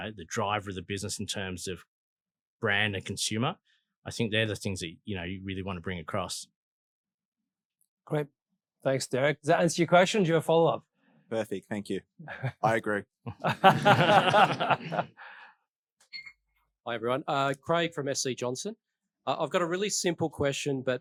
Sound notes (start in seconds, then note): 13.3 all laughing